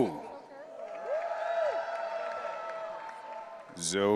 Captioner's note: audience cheering